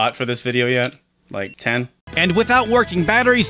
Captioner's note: VMU beeps